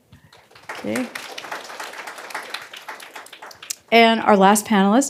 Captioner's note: applause